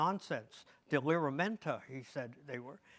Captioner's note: speaks in foreign language